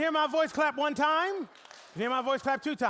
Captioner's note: audience clapping once